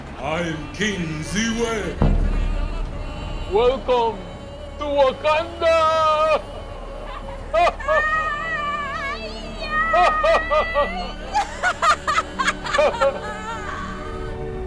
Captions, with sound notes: I'm King Zewe! Welcome to Wakanda! [cheering]